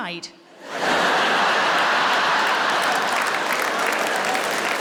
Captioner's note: audience laughing